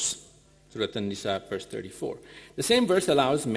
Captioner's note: speaking in foreign language